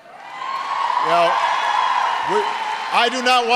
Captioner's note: applause